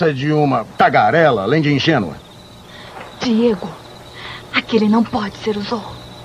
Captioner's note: whispering